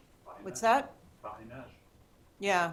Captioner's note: french